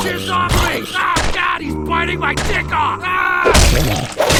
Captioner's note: screams